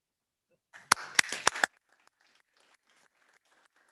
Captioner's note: all applauding